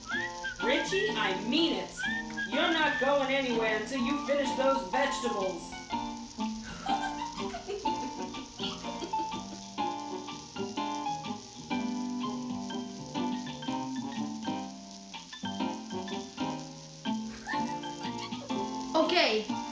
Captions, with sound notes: RICHIE, I MEAN IT. YOU'RE NOT GOING ANYWHERE UNTIL YOU FINISH THOSE VEGETABLES. [ GIGGLING ] OKAY.